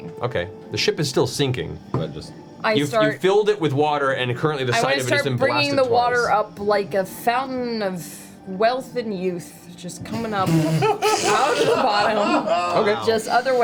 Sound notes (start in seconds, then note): 10.8 all laugh